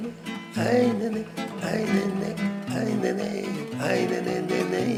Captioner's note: humming melody